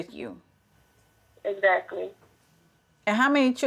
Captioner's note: phone Voice